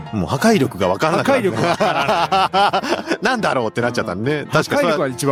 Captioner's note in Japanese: 笑い